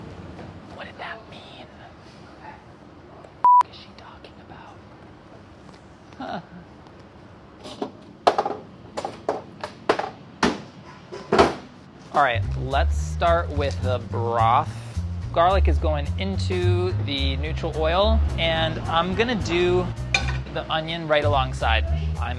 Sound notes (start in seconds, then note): 7.5 clattering; 7.5 slamming; 11.1 thumping